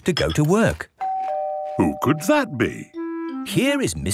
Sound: doorbell ringing

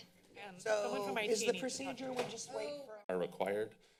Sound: machine voice; chatter

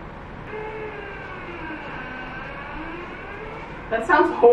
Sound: ice machine sound

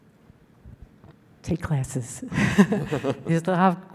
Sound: laughing

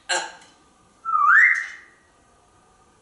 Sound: whistling

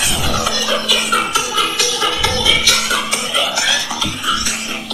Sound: testing Ringtone

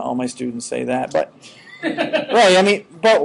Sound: students laughing

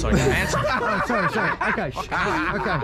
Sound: all laugh

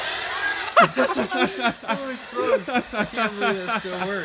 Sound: laughing

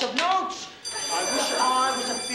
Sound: bell ringing

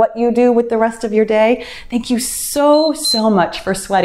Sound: timer beeps

